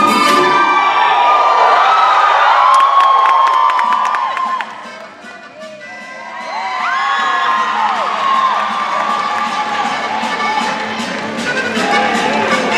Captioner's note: cheering